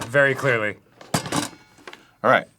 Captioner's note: clang